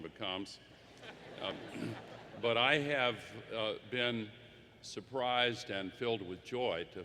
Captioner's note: laughter